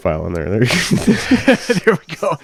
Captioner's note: laugh